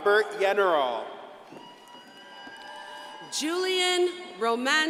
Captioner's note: crowd cheering and applauding